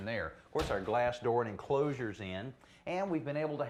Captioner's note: slams door